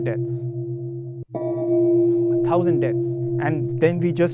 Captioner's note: gong